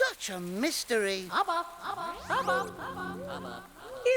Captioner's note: echoing